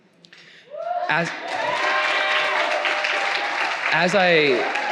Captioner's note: audience cheering